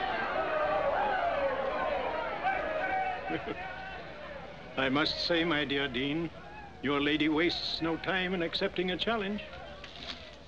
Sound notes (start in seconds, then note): 3.2 chuckles